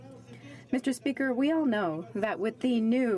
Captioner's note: speaking French